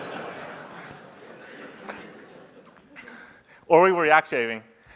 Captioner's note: laughter